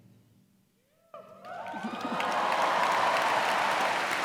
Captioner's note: cheers and applause